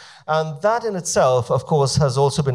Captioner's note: none